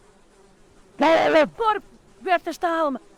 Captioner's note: Bruno screaming